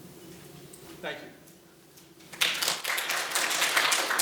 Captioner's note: applauding